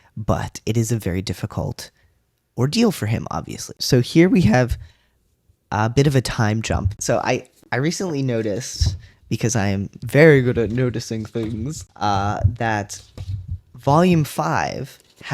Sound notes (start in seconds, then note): 9.3 silly voice